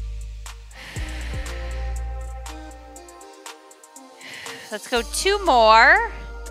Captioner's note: exhales